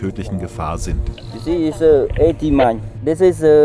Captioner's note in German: englisch